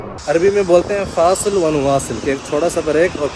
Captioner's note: Arabic